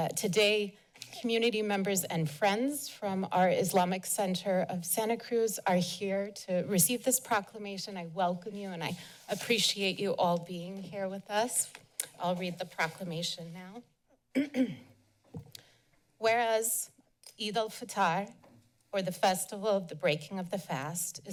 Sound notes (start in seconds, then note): 14.3 clears throat